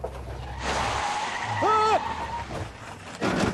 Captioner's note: tyres screeching